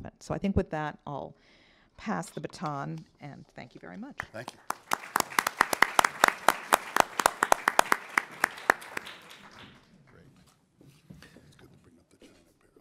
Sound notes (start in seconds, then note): 4.2 applause